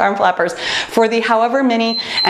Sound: timer beeps

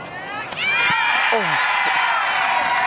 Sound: crowd cheers

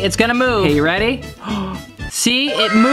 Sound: gasps

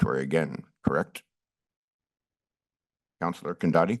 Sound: pause

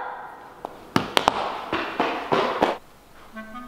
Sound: running footsteps; upbeat music

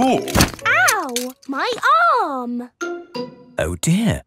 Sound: thumps

